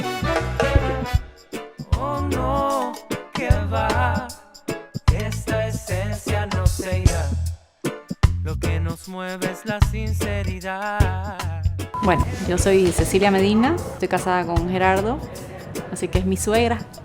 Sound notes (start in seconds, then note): none